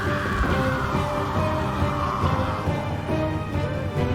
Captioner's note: Riley screams; dramatic music